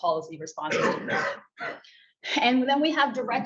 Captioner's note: attendee coughs